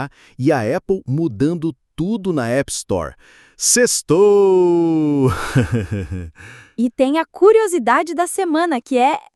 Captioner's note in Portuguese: risos